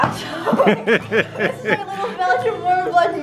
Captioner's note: dad laughs